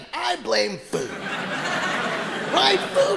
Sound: audience laughing

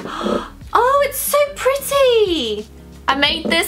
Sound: gasps

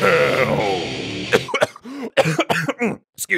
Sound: heavy coughing

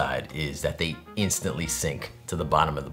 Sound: none

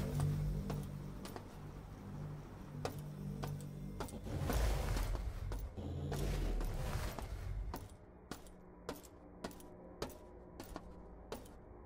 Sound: footsteps

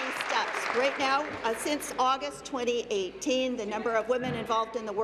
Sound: applause

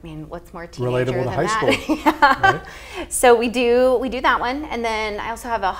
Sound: laughs

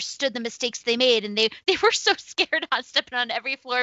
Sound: laughs

